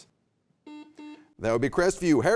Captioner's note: buzzer beeps